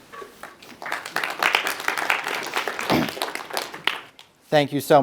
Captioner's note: audience applauding